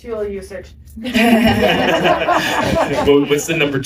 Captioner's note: laughter